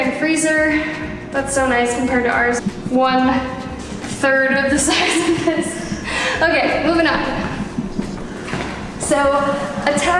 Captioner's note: laughs